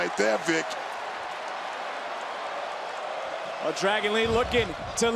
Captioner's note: crowd cheers